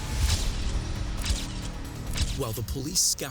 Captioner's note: camera clicking